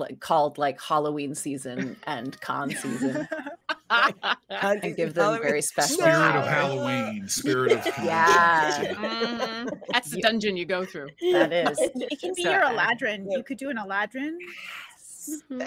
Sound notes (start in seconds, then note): 4.0 laughs